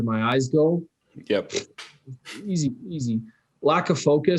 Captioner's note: chuckles